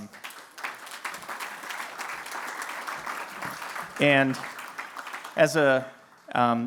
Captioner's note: applause